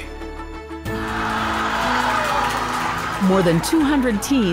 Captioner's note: group cheering